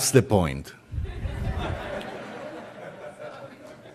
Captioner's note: laughter